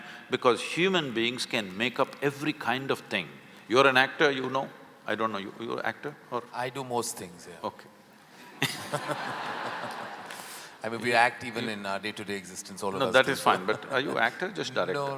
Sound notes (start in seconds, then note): 8.4 laughter; 13.1 laughs